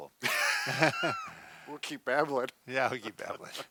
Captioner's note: laughs